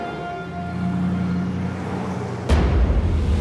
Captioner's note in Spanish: Ruido de los vehículos